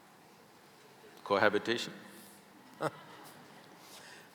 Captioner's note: Karan Johar laughs